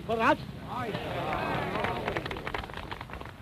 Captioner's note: applause